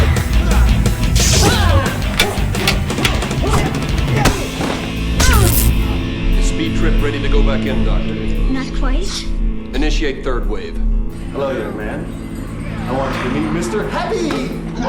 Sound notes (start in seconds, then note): 1.2 grunting; 5.3 electricity crackling